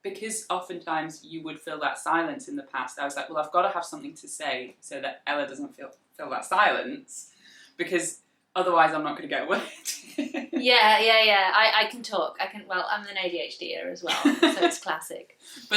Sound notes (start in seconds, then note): 10.1 laughs